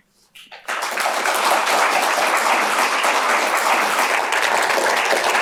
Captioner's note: applause